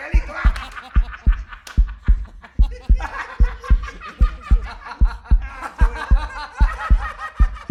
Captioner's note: stronger and faster heartbeat sound